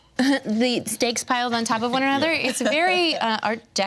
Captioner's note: laughs